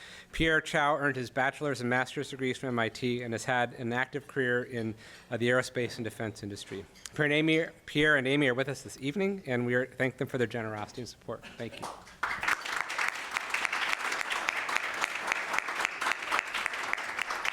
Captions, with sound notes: Pierre Chao earned his bachelor's and master's degrees from MIT and has had an active career in the aerospace and defense industry. Pierre and Amy are with us this evening. And we thank them for their generosity and support. Thank you. [APPLAUSE]